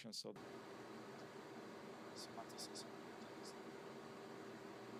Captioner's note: background interference